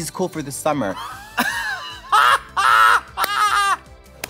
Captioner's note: laughter